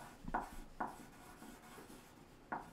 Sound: pencil scratching

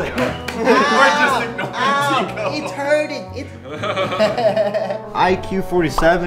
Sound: laughs

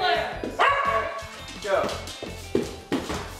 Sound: dog barks

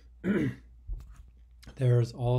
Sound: man clears throat

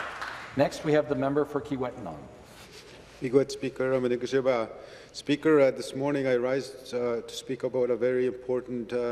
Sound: some Applause

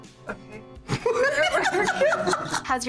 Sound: both laugh

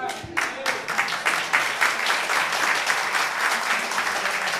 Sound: applause

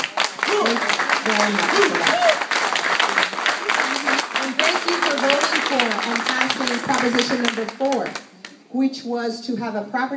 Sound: applause

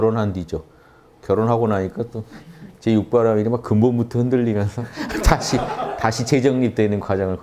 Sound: laughters

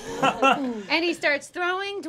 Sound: chuckles

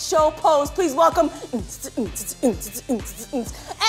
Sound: imitating dance music

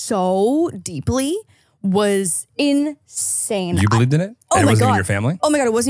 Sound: laughs

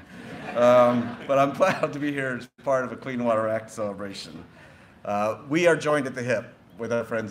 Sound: laughter

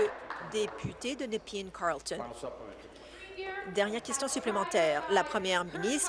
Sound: applause

